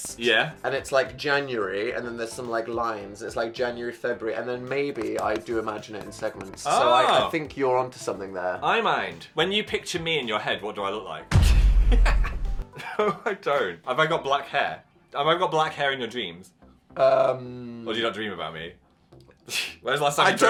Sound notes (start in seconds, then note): 11.3 thud booms; 11.8 Phil laughing